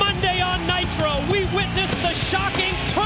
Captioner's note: crowd cheering